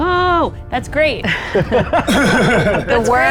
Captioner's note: group laughs